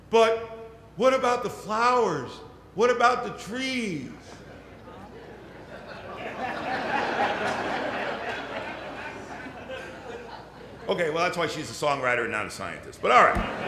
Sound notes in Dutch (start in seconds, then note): 4.4 Gelach